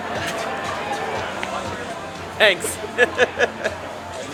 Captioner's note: laughing